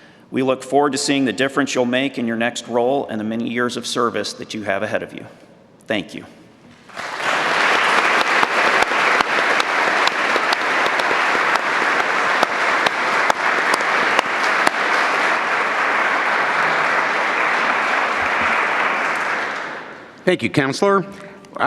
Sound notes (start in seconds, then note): 8.6 applause